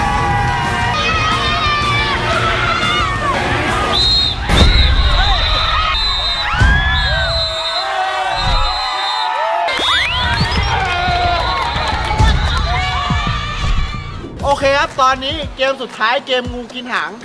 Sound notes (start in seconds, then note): 0.0 people shouting indistinctly continues; 3.8 whistle blowing; 6.5 whistle blowing continues